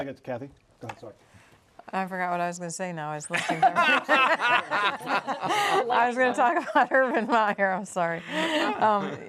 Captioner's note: laughter